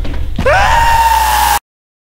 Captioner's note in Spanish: fuerte grito